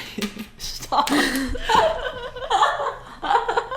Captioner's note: laughs